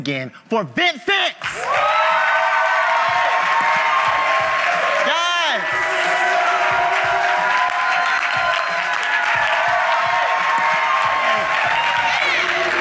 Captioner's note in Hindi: ताली; भीड़ द्वारा जय जयकार करते हुए